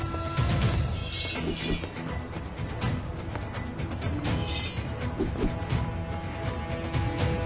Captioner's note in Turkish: Kılıç Sesleri